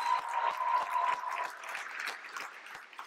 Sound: applause

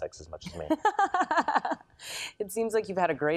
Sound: laughs

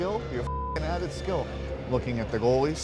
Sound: beep

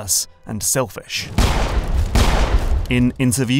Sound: gunshots

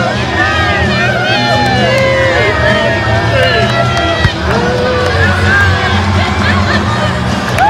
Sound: family and friends cheering

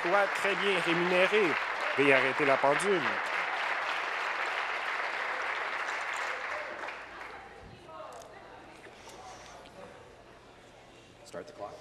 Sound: applause

